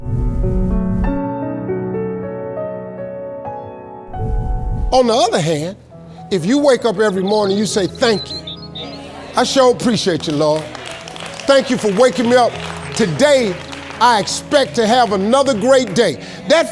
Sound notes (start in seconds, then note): 0.5 gentle music; 10.6 audience applauds